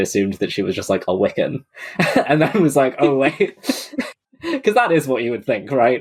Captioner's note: laughs